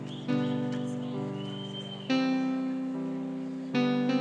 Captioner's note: whistling in audience